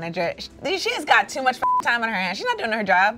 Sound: beep

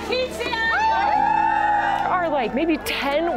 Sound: speaking in foreign language; cheering

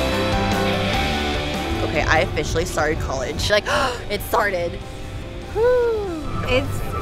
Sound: deep inhale

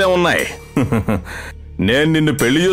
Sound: laughs

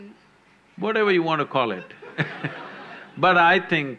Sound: few laugh

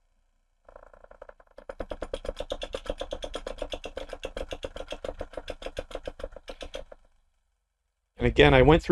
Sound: noise of table vibrations

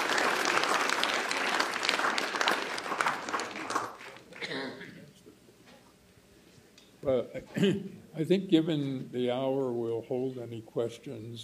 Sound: applause

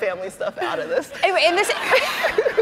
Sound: laughs

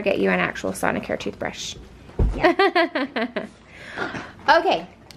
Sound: laughs

